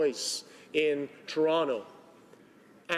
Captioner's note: speaking Italian